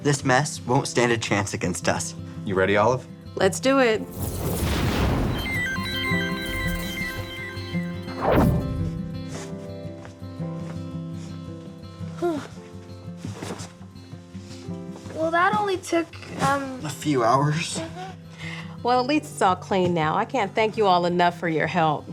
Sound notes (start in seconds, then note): 3.9 electricity whirring; 4.2 soft music